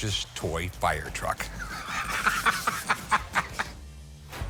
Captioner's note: laughs